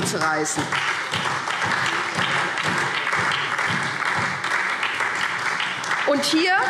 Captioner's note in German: Beifall SPD